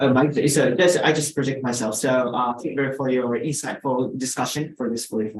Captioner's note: speaks faintly